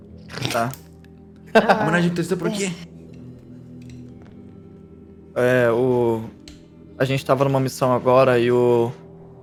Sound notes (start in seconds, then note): 1.5 laughter